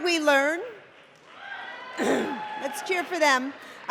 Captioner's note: cheering